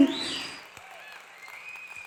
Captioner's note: applause